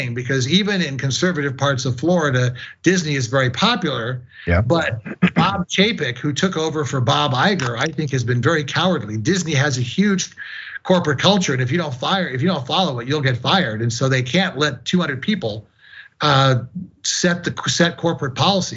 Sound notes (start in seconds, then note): 4.3 cough